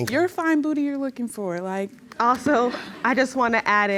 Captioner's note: audience chuckling